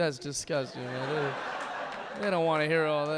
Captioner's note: audience laughing